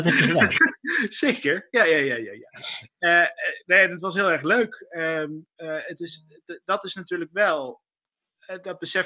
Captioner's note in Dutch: gelach